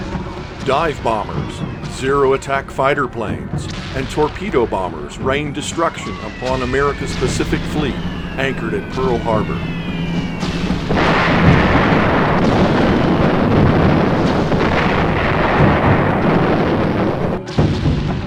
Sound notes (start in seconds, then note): 9.7 bombs whistling; 11.1 explosions